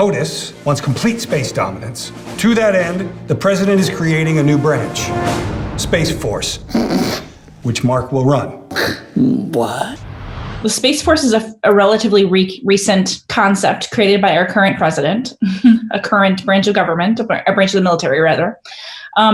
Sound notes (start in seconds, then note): 5.1 grand orchestral music; 6.6 snorts; 15.5 chuckles